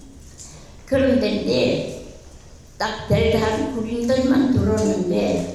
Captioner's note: speaking in foreign language